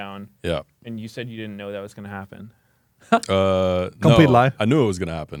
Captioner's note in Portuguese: risos